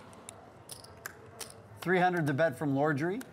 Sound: chips hitting the table

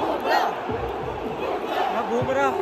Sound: cheers

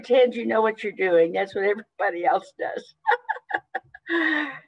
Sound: laughs

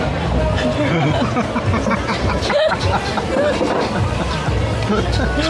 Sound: laughing

